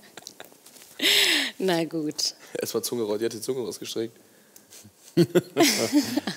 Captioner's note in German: Alle lachen